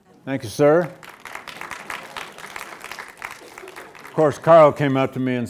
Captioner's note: students applauds